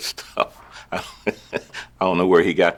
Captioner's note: Marquit Chuckling